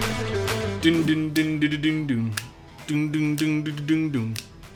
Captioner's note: humming